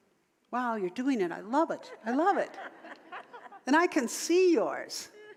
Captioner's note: audience laughter